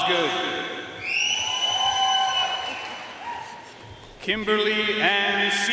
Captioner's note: audience cheering and applauding